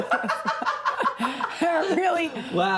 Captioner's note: laughs